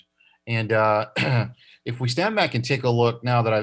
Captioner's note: coughs